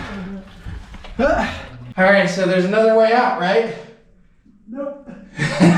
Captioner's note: grunts